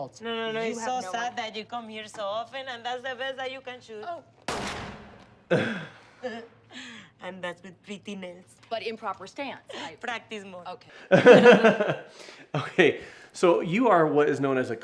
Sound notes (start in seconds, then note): 4.4 Gloria shoots; 5.4 chuckles; 11.1 both laugh